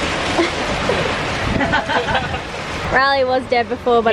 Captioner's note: laughs